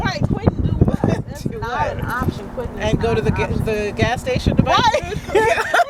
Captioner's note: laughter